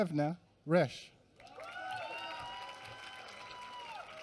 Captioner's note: applause